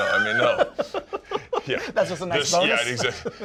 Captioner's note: laughs